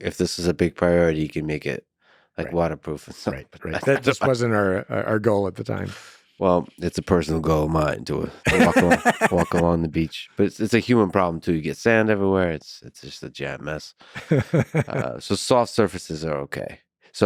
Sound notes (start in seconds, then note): 8.4 laughs; 14.6 laughs